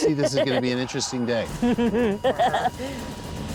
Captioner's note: laughter